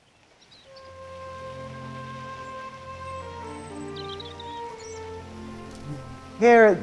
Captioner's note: birds chirping; soft orchestral music